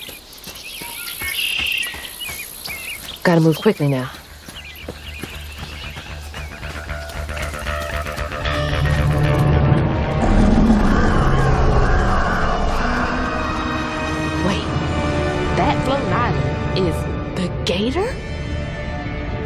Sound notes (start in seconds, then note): 0.5 birds chirping; 5.6 music intensifying; 8.7 earth-shattering roar